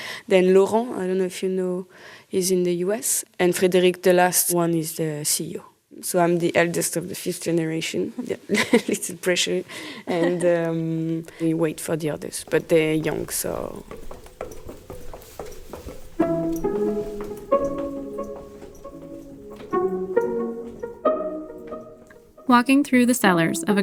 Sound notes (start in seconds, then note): 9.9 laughs